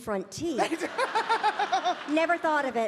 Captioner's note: laughing